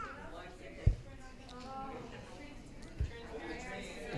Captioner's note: audience chattering